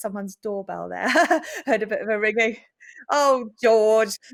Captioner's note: chuckles